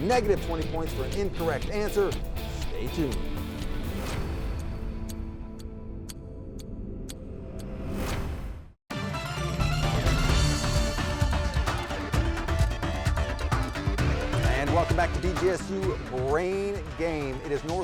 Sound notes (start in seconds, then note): 3.7 suspenseful music; 7.1 clock ticking loudly; 8.9 upbeat music